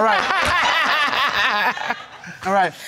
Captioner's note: laughing